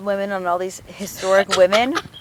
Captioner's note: laughs